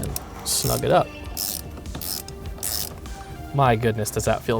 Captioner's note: wrench cranks